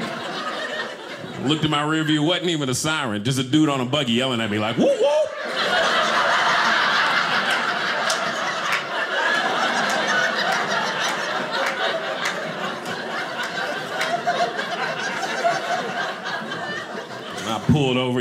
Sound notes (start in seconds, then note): 4.6 audience laughing